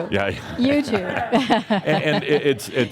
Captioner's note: she chuckles